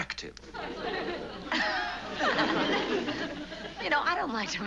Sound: laughing

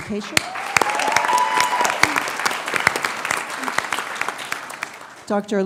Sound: applause

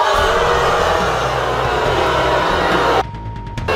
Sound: audience booing

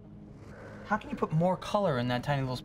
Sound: whoosh

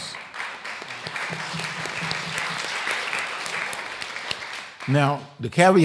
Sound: applause

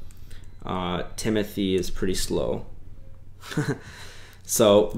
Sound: laughs

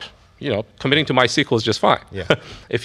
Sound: laughs

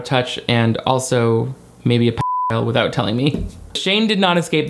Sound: beep

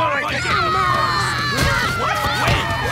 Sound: screaming

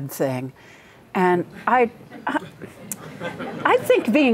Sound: laughter

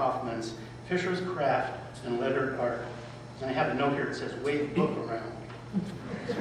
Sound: laughter

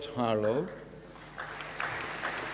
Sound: applause

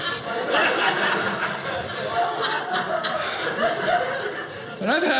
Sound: audience laughing

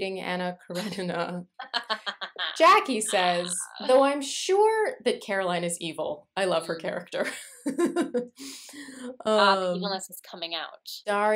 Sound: laughter

